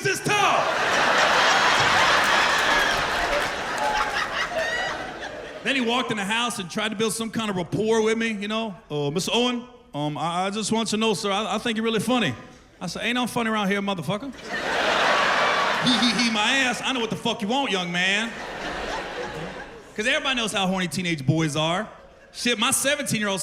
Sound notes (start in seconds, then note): 2.5 laughter; 9.8 deep voice